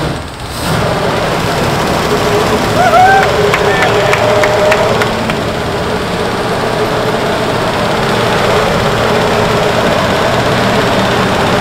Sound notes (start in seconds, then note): 0.7 engine revs; 3.1 crew cheers; 3.1 engine roars